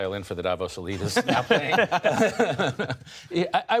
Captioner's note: laughter